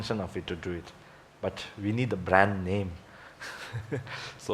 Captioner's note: laughs